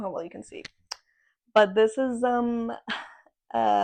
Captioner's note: sigh